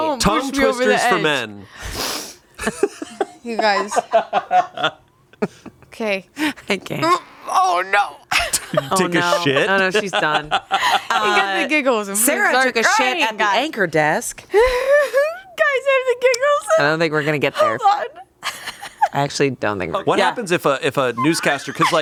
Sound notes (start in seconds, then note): 2.6 laughs; 14.5 laughs